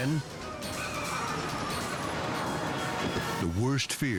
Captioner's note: tires screeching